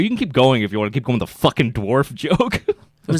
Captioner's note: laughs